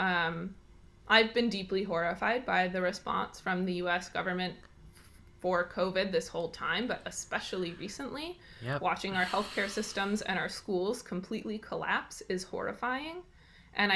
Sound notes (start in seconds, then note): 9.1 deep sigh